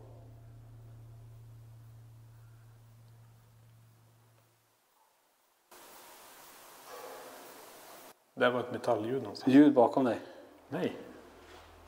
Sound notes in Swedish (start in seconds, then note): 6.9 smäll